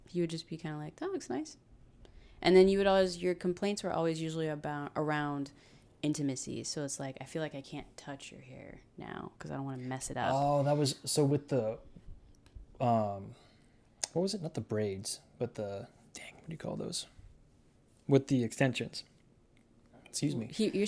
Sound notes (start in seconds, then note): none